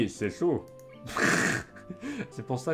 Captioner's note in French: Rires